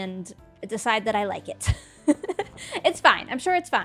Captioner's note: laughs